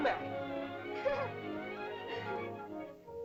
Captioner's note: boy speaking in caveman language; girl laughs; whimsical music